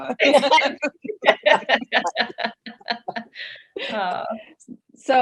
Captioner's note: all laughing